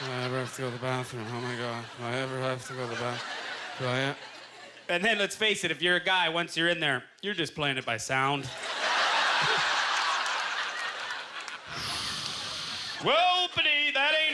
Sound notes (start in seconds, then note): 8.5 audience laughter; 11.4 whooshing; 14.1 audience laughter